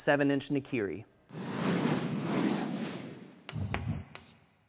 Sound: wind rushing; chalk writing

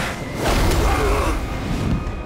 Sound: grunting; screaming

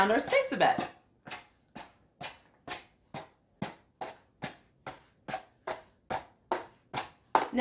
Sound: scratching sound

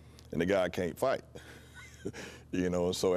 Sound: laughs

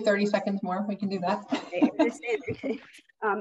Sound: laughing

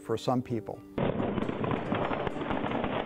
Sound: gunfire and explosions

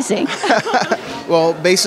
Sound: laughter

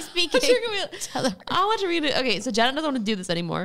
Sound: laughs

